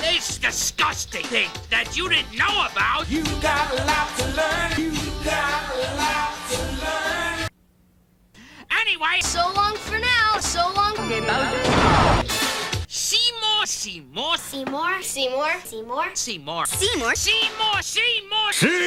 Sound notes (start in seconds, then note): 11.6 explosion